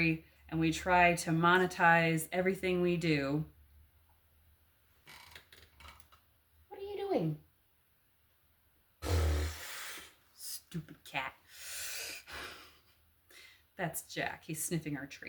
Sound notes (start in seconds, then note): 9.0 razzberries